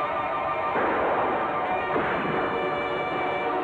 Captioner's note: gunshots; suspenseful music